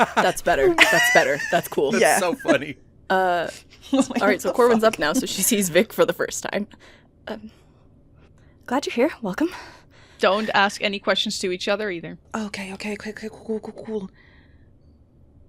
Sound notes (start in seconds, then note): 2.8 laughter; 3.3 laughing